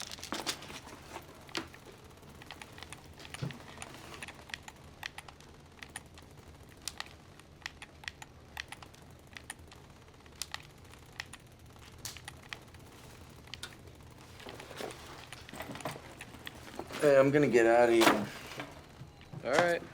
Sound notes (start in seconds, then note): 3.1 rattling gunfire from video game